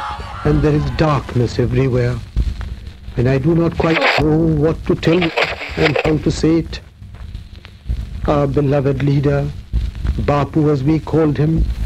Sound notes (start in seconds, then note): 1.8 radio announcement; 4.7 radio announcement; 8.6 radio announcement; 11.0 radio announcement